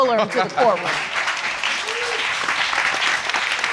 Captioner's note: applause